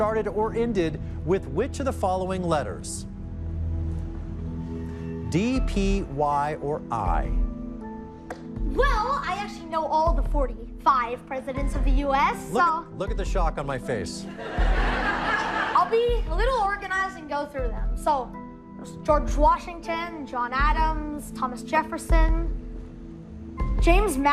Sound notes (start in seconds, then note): 14.3 laughter